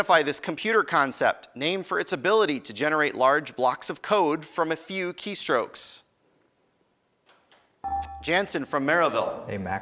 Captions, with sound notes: Identify this computer concept named for its ability to generate large blocks of code from a few keystrokes. (beeping) Jansen from Merrillville. >> A macro.